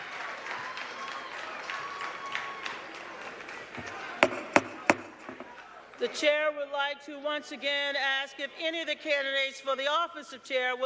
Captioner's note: cheers and applause